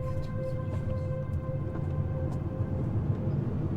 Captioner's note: traffic noise